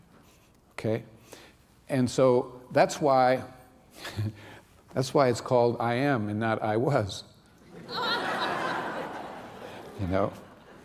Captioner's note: laughter